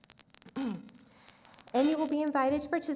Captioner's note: clears throat